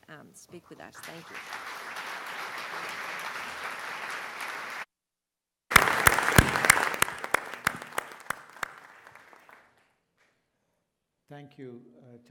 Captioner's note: applause